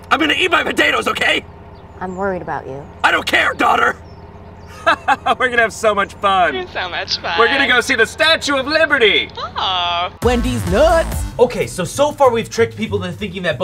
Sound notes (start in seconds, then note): 4.6 laughs; 10.5 voiceover